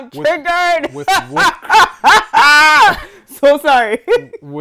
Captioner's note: laughing